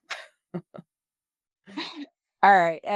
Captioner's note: laughs